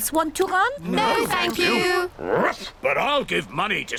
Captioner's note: barks